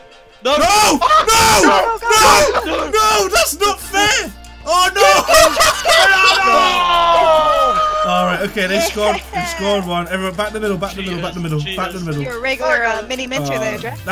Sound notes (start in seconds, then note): 4.9 laughing